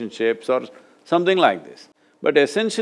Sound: none

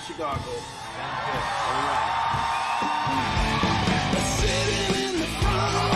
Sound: audience cheering; rock music

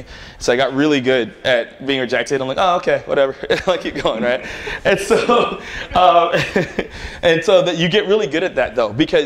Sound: laughter

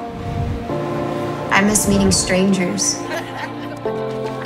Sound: laughter

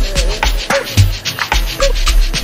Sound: ahhhhh

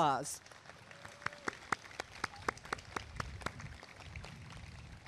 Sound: applause and cheering

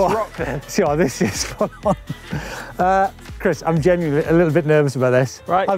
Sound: laughs

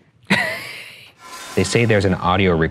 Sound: laughing

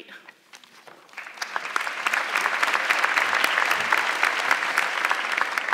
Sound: audience clapping

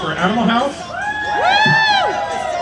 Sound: cheering

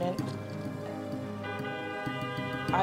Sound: horn honks

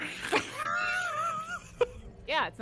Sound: laughing

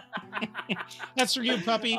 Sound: laughing

